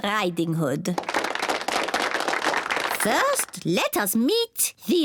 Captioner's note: applause